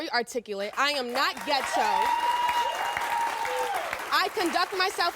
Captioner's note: crowd cheers